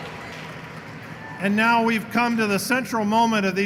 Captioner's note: applause